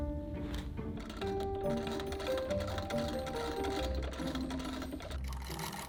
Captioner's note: sewing machine whirring